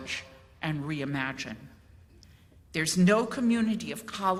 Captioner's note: none